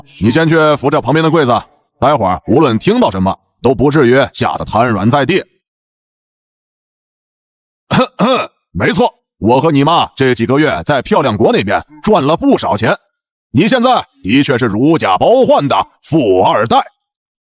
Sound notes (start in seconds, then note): 7.9 ahem